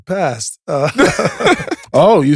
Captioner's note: group laughs